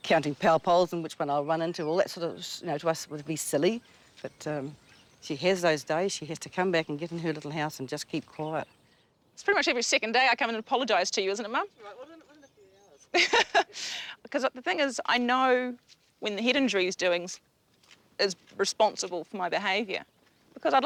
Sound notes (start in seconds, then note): 12.9 laughs